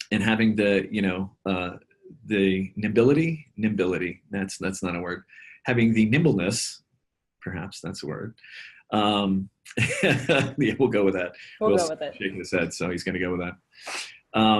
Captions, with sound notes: and having the ya know, the nimbility? Nimbility, that's not a word. Having the nimbleness perhaps that's a word, (laughs) yeah, we'll go with that. - We'll go with it. - Will's shaking his head so he's gonna go with that.